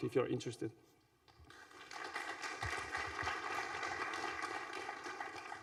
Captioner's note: applause